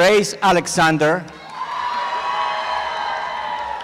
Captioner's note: applause and cheering